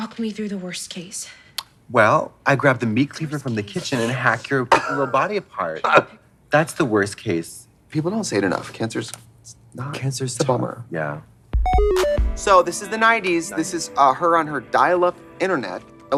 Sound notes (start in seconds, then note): 2.1 tongue clacks; 4.6 Trixie giggling; 11.6 bright electronic music